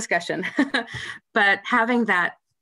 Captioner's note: laughter